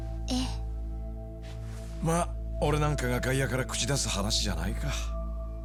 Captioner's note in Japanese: 鼻息